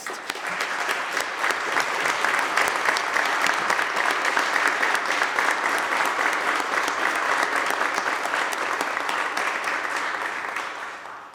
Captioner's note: applause